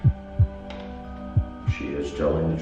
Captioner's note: heartbeat